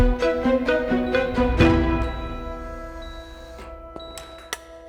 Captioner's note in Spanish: Suenan pitidos